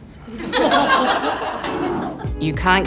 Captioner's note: laughter